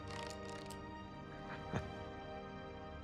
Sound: laugh

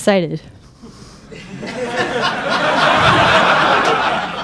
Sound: crowd laughing

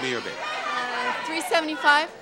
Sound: audience shouting

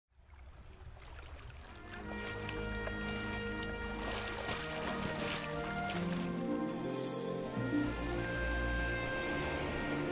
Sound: crickets chirping; water splashing; wind blowing

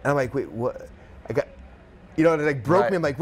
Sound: stammers

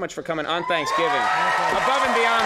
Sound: audience cheers

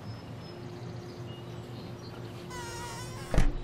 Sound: rechinido de puerta

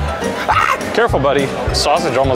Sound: screams

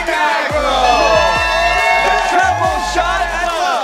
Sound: cheering

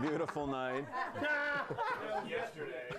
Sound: laughter

